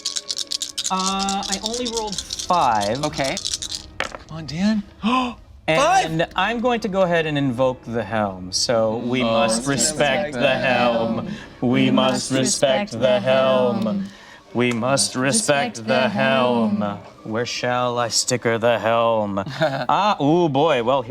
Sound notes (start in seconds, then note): 2.9 dice clatter